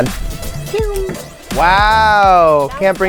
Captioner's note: makes faint shooting noise